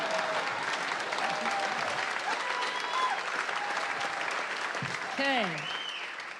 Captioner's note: applause